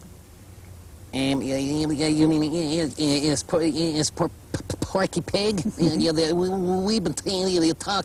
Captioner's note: mimicking Porky Pig